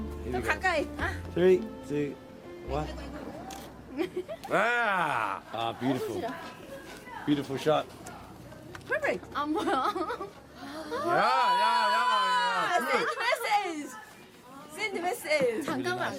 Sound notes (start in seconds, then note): 0.5 speaks Korean; 3.4 camera shutter clicks; 9.7 speaks Korean